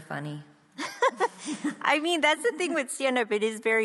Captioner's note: laughs